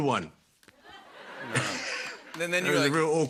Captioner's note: laughter